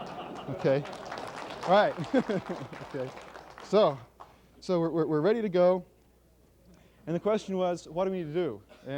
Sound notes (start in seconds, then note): 0.0 laughter; 0.0 applause